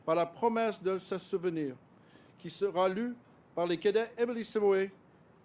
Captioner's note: speaks French